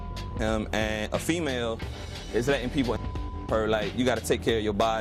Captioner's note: beep